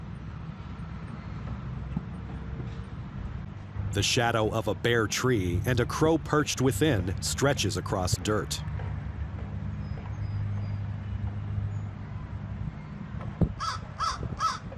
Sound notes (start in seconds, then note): 3.8 birds chirping